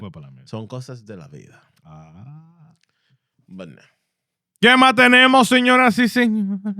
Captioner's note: speaking Spanish